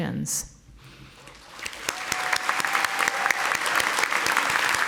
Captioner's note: audience applauding